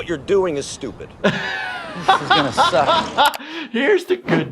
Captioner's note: laughs